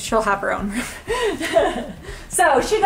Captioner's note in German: kichert